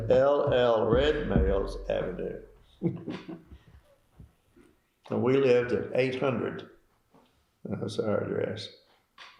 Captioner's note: laughter